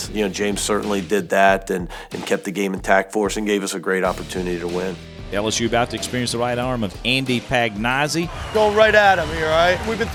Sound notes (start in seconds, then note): 5.5 voiceover